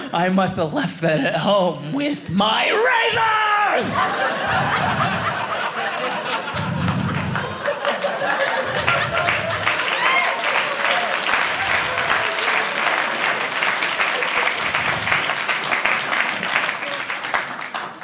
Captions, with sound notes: I must have left that at home with my razors! (audience applauding)